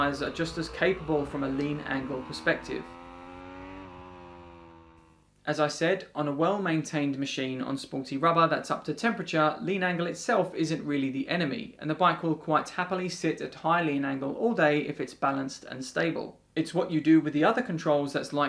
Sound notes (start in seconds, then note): 2.8 bike revving